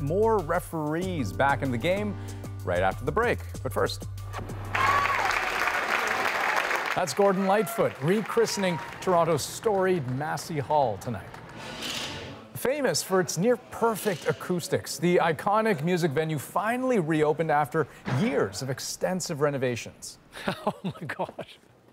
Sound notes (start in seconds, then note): 6.9 applause